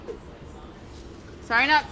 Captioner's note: metal sliding